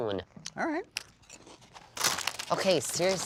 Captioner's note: chip bag crinkles